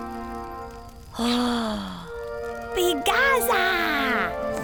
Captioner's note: speaks in gibberish